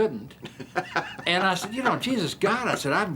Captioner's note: laughing